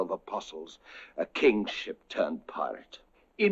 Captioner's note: inhales